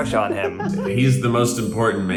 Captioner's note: Zach laughs